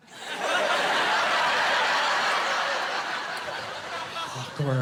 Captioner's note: laughing